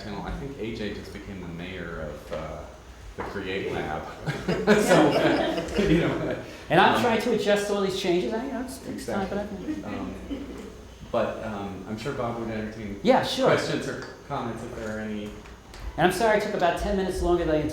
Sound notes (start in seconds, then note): 3.7 group laughing